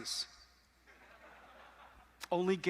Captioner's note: audience laughing